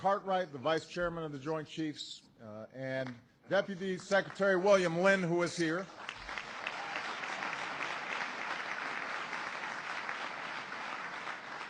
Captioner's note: applause